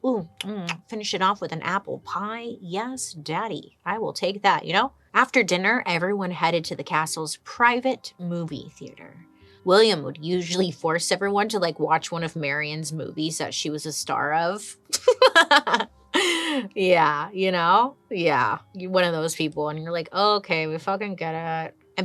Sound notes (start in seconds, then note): 14.9 chuckles